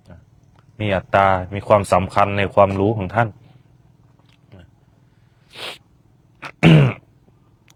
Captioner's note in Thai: เสียงสูดหายใจ